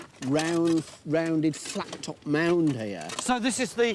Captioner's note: shovels scrape